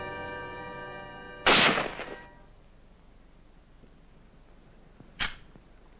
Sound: gunshots

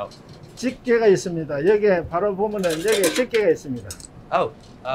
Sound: speaking in Korean

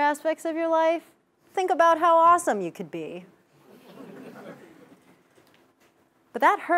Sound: laugh

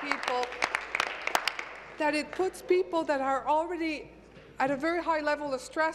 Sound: applause

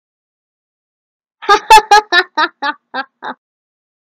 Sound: laughing

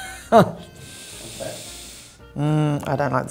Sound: inhaling slowly

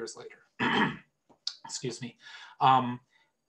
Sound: clears throat

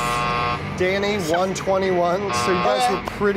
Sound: buzzer; buzzer

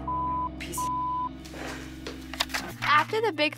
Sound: beep

